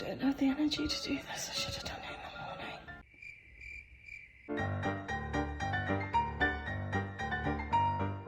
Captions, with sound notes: - I don't have the energy to do this. I should've done it in the morning. (crickets chirping) (joyful piano music)